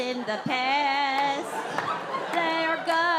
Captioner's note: audience laughs